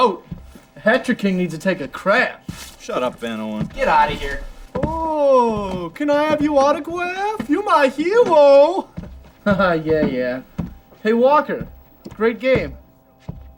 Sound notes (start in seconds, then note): 8.6 laughs